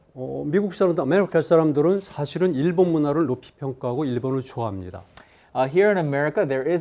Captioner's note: speaking in Korean